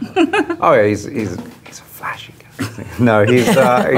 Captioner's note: laughs; whispers; laughing; laughs